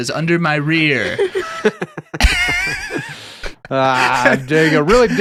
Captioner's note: laughing